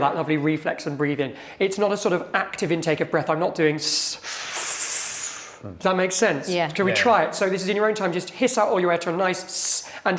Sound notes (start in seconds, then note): 4.3 breathing deeply